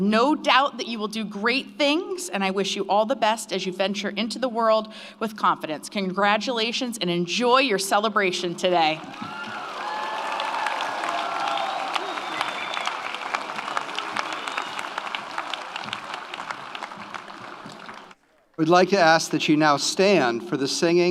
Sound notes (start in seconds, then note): 9.0 audience applauds; 9.0 audience cheers